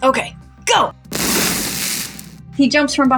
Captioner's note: electric Crackle